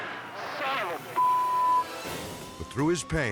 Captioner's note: beep